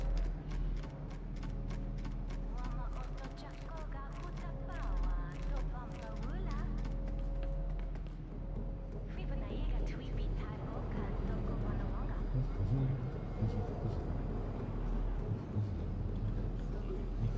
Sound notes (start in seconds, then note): 1.5 ominous music; 4.7 speaking foreign language